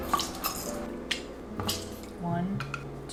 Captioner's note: squeezes